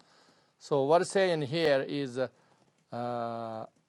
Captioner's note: tibetan